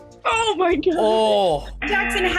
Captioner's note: buzzer